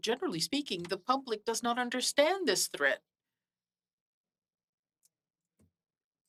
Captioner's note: speaking French